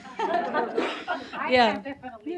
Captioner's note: audience laughs